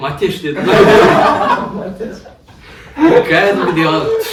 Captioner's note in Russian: Смех